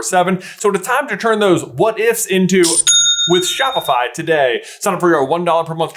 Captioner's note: cha-ching!